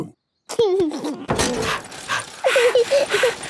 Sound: daddy pig panting; mummy pig panting; chuckles; peppa chuckles

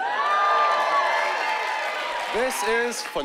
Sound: cheering and whooping

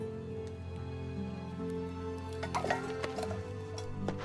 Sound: cup clatters

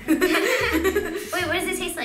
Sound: laughs

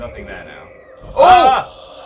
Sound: screams; yelps

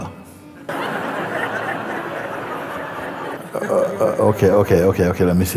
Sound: laughter

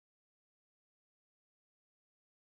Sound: none

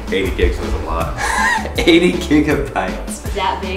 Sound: chuckles

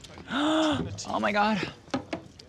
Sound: gasps

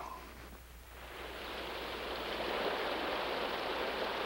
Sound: water rushing

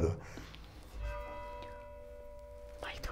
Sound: bell ringing

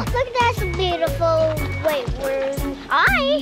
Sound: gasps

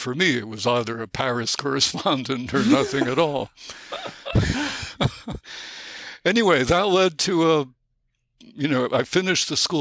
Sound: chuckle

